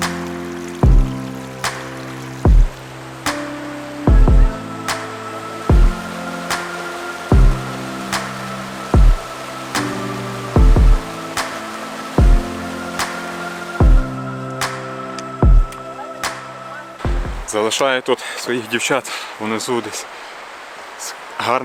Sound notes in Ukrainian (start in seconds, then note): 0.1 оплески; 11.4 оплески